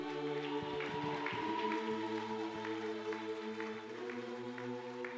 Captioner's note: audience applauding